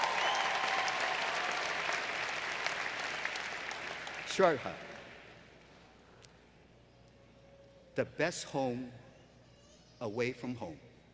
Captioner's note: applause